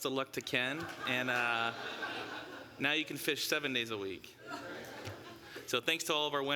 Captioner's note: laughter